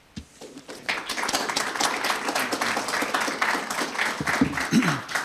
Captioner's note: audience applauds